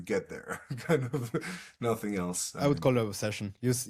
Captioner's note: laughs